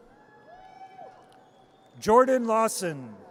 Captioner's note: audience cheers